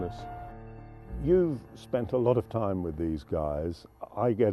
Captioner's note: voiceover